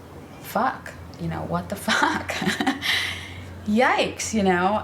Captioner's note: laughs